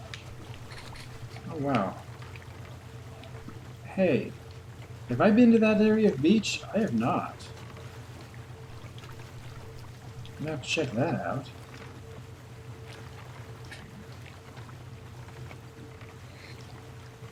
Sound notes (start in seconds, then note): none